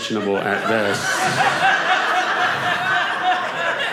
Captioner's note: audience laughing